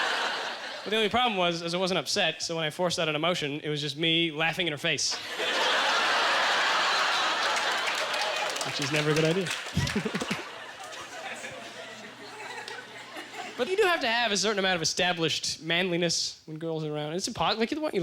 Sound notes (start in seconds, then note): 0.0 audience laughter; 7.2 audience ughger; 9.5 lingering chuckles